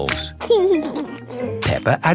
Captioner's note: laughing